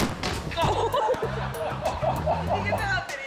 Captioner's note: suspenseful music; ball smacking; dad laughing